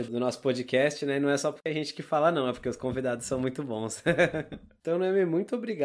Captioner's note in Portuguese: risos